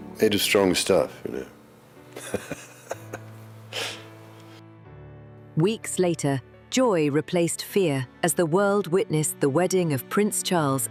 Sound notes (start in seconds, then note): 2.1 chuckles